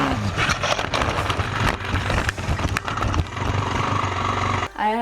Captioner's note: bike crashing